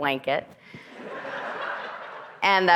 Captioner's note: audience laughing